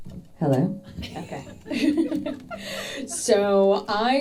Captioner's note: laughing